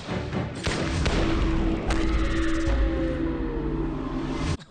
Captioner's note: gunshots bang